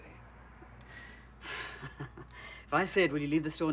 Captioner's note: sighs; chuckles